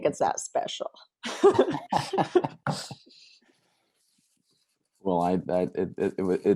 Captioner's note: laughing